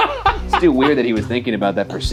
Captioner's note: laughing